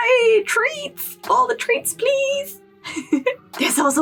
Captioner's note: laugh